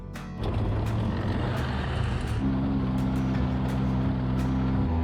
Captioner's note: engine revving